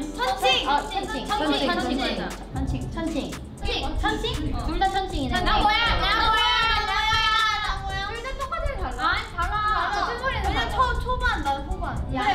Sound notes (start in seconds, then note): 3.7 speaks in Korean